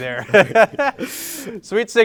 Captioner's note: they laugh